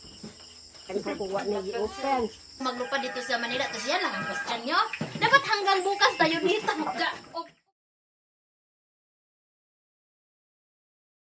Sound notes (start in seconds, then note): 3.1 me talking in Filipino with facial expression